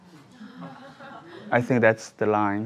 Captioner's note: audience laughs